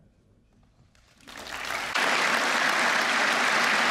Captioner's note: applause